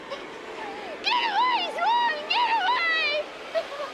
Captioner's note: sobs